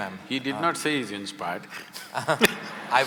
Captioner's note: laughter